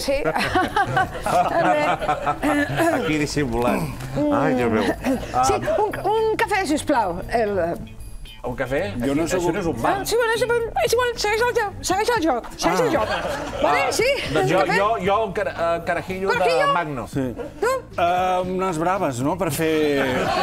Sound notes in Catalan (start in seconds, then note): 1.4 riure forçat